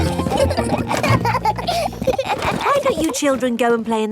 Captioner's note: children laughing